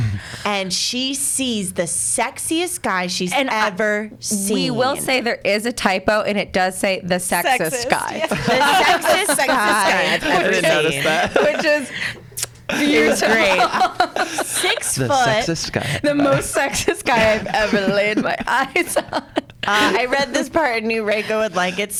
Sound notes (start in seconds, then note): 7.5 laughs; 12.4 kiss sound; 13.8 laughs; 18.9 laughs